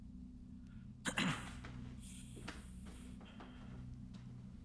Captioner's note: throat clearing